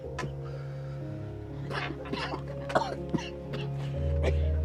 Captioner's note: coughing